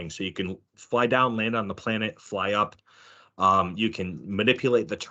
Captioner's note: none